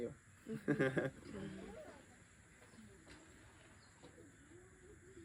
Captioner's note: laughter